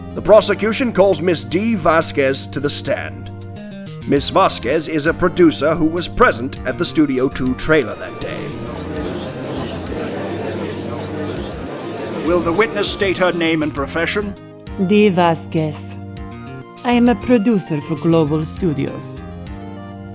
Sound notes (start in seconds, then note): 7.7 gallery chattering